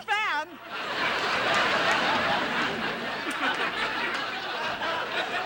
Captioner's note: audience laughing